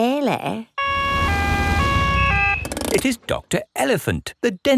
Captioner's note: siren wails